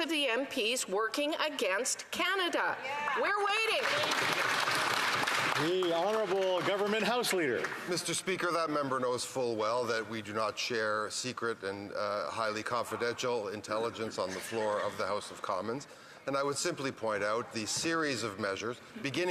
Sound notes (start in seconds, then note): 7.2 some Applause